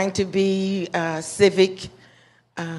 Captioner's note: none